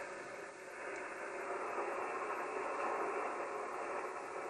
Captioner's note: static crackling